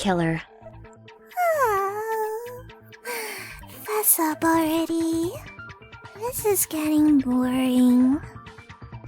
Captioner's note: yawn